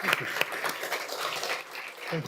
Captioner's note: applause